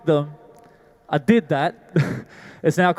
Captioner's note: laughs